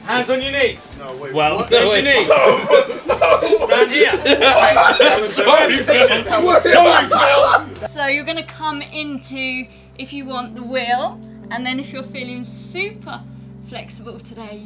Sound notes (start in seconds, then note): 3.2 group laughing